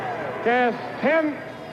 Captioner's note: individuals cheering